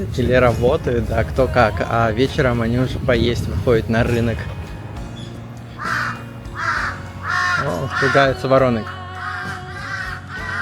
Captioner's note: scream